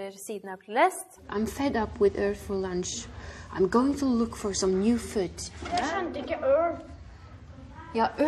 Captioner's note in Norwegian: Lærer leser fra boka på engelsk